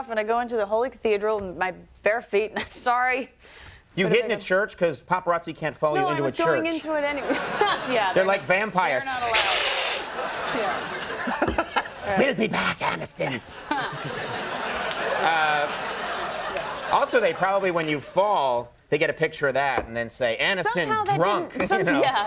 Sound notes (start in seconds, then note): 9.1 man growls; 10.7 public laughs